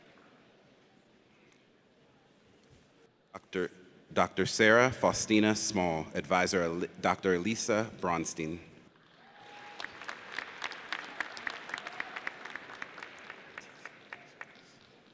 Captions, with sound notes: Dr. Sarah Faustina Small. Advisor, Dr. Elissa Braunstein. (audience cheers)